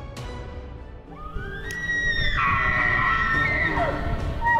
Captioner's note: dramatic music; elk bugles